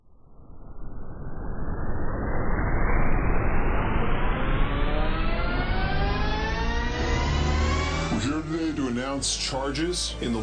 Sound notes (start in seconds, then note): 1.2 air whooshing; 3.4 energy revving